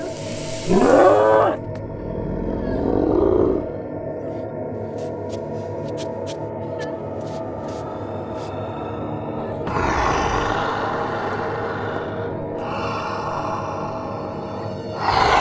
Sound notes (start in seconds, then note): 1.9 roaring; 2.7 growling; 9.9 heavy breathing